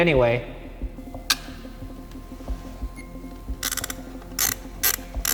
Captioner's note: camara clicks; camara whirring